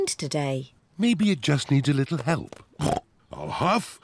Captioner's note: snorts